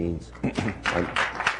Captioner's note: applause